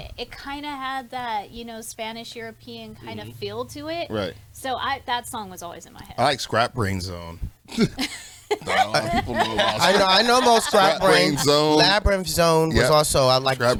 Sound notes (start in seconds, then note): 7.7 laughs